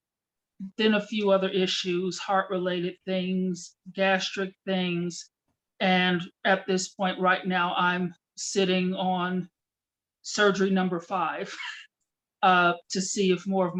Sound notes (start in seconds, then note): 11.5 chuckle